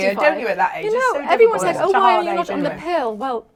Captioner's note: chatter